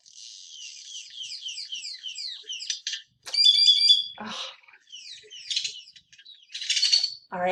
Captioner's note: loud bird noises